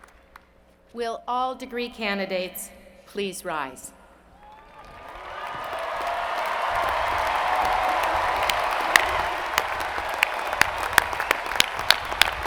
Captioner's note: cheers and Applause